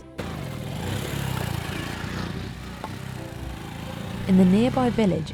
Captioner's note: motorcycle engine revving